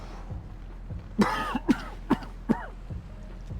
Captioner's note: man coughing